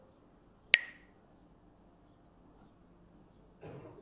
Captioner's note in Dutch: klakt met stokjes